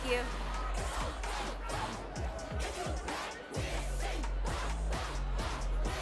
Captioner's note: music and crowd talking